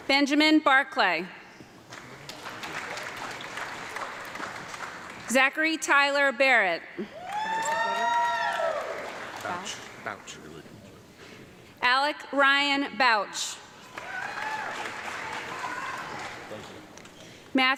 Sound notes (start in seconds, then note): 1.8 audience clapping; 7.1 audience clapping and cheering; 13.8 audience clapping and cheering